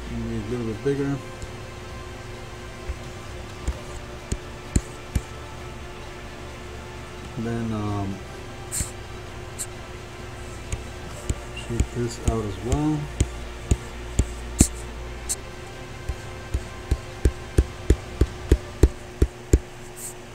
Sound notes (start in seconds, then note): 2.9 faint adventurous music; 3.6 computer mouse tapping; 8.9 faint techno music; 14.0 computer mouse tapping; 14.0 faint techno music